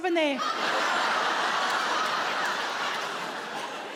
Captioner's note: audience laughing